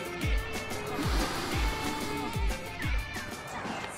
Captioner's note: Sniffs